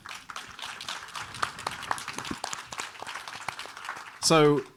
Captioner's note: audience applauding